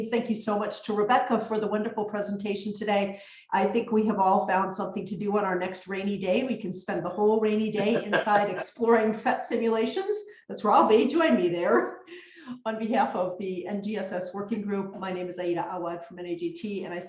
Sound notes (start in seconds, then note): 7.8 laughs